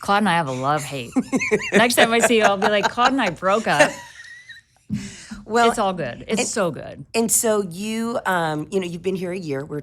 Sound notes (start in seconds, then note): 0.6 laughing